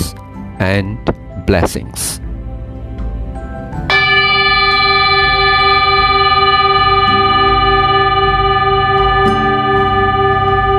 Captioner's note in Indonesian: bell